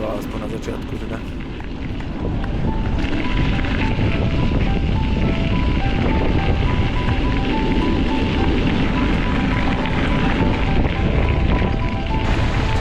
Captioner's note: wind blowing